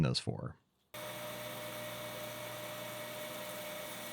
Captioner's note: machine whirring